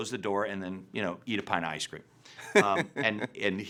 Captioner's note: laughing